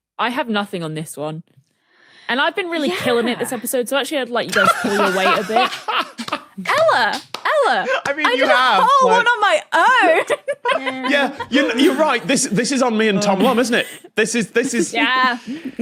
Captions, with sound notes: I have nothing on this one. And I've been really killing it this episode. So actually, I'd let you guys pull your weight a bit. (cackles) (applauds) Ella! Ella! I mean— I did a whole one on my own! (giggles) Yeah, you're right. This is on me and Tom Lum, isn't it? This is— This is— Yeah.